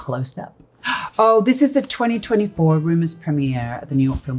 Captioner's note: gasp